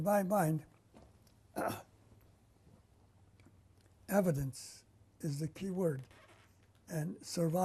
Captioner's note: pauses for 3 seconds